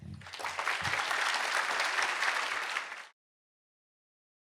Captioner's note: applause